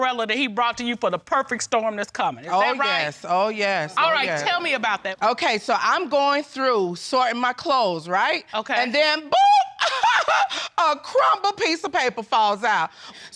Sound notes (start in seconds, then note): 9.8 laughs sarcastically